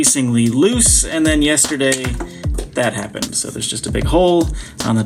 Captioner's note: microphone clatters